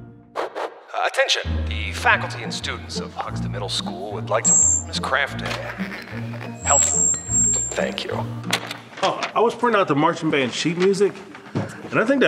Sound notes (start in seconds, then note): 1.1 voiceover; 4.4 buzz; 6.6 static; 7.2 buzz